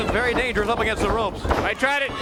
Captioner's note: crowd chatter